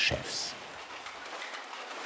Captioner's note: rattling